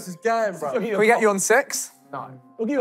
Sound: none

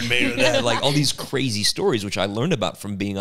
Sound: laughing

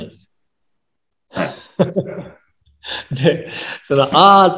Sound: laughs

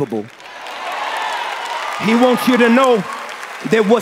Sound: cheering and applause

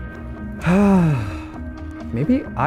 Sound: sighs

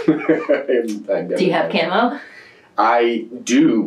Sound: laughs

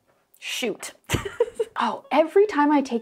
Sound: laughs

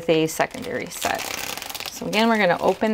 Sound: bag tearing

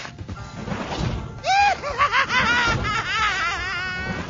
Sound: evil laughter

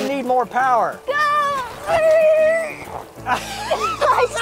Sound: yelling; both laughing

